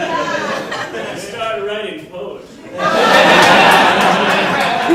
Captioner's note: audience laughing